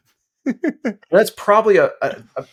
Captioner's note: laughter